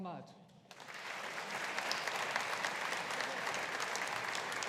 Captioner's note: audience applauding